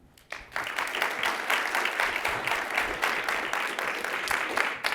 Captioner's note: audience applauding